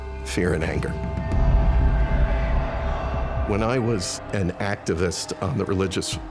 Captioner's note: indistinct crowd noises